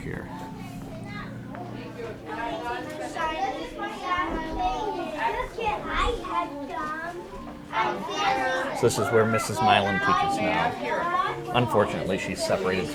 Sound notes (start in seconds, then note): 1.1 children chattering